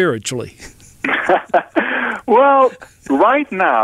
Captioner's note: laughs